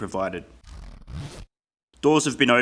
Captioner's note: zipper sound effect